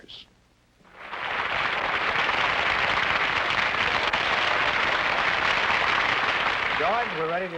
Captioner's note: applause